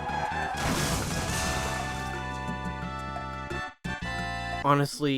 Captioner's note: car crash sound